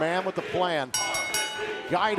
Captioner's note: bell ringing